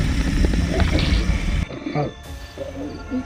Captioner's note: deep Growls